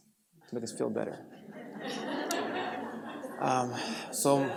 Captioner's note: laughter